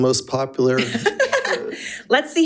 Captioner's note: chuckles